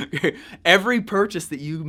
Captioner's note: laughs